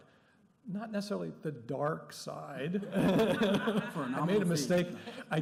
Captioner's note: laughter